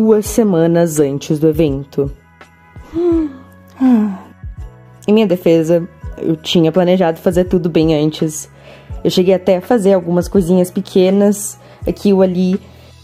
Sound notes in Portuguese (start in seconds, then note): 3.7 Suspiro